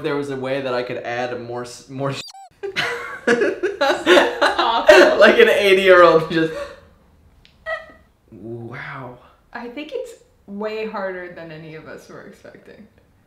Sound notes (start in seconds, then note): 2.4 laughing; 2.4 squeaking